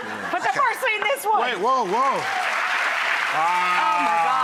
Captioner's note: applause